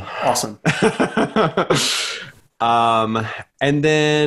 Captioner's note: laughs